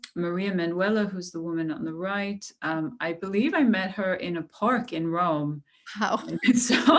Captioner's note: laughter